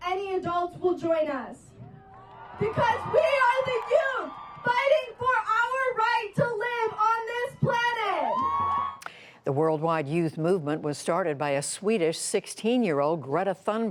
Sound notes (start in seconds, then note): 9.5 cheering and applause